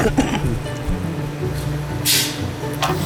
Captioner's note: coughing